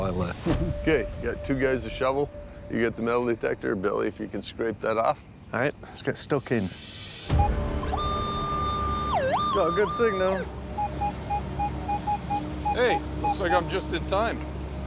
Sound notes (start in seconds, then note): 7.9 metal detector whining